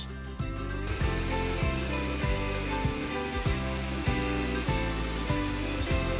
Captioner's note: upbeat music; buzzing and whirring